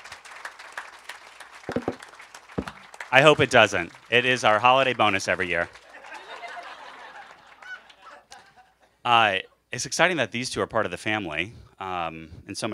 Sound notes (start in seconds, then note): 5.8 laughter